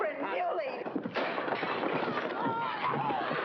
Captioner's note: smash; commotion & struggling